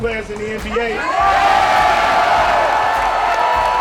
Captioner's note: loud cheering